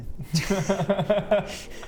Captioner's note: laughs at bestest mathematician